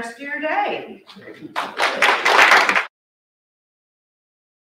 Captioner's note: audience clapping